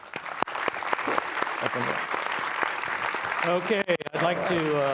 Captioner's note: participants applauding